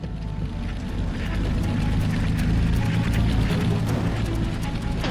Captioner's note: tank engine whirring